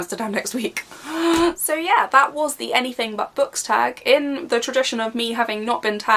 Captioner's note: loud inhaling